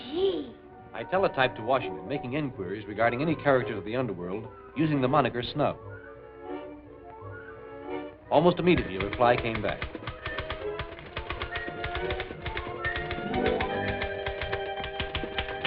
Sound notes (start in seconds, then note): 8.6 typing; 11.5 suspenseful music